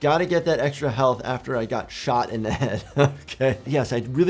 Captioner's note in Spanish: risas